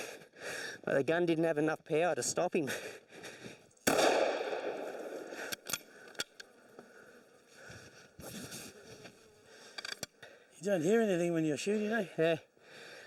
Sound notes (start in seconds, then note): 3.8 gun shot